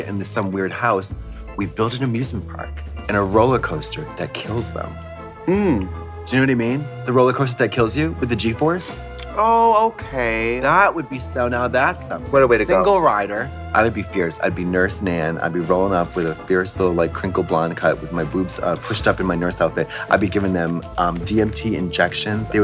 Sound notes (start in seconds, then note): 19.9 Trixie gasps